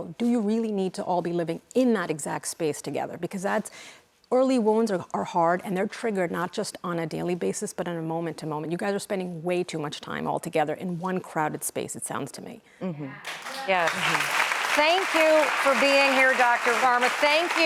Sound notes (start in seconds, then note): 13.2 audience clapping